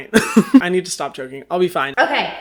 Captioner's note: laughs